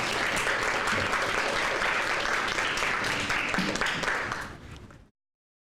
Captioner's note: crowd applause